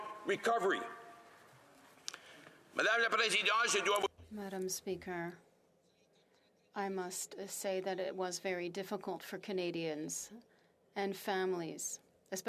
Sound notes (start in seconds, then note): 6.7 speaking French